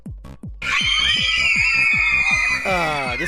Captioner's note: fangirls Screaming